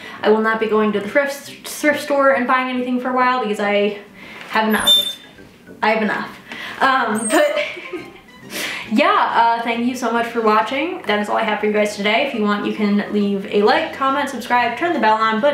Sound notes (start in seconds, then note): 7.2 laughs